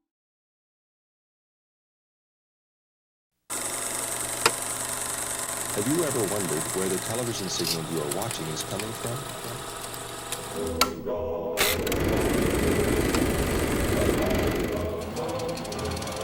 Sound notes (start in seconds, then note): 3.6 projector clicking